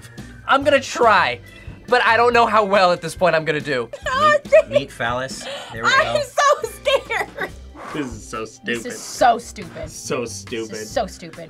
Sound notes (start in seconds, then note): 7.2 laughs